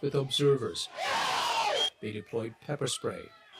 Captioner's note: crowd screaming